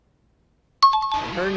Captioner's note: time chime